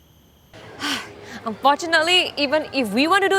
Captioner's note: sighs